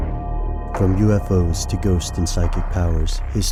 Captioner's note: creepy music; voiceover